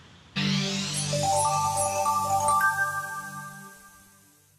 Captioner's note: light chimes